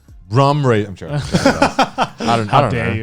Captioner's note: laughing